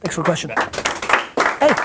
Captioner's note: applause